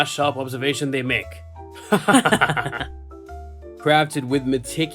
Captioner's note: laughs